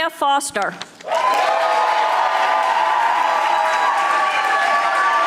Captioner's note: audience applauding